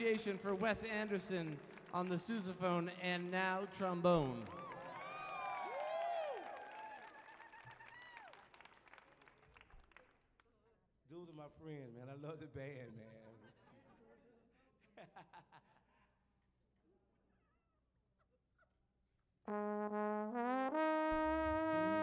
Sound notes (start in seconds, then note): 13.6 crowd chattering faintly; 15.0 laughing; 20.9 slow bluesy music